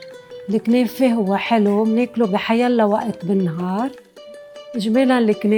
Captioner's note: bright music; speaking in foreign language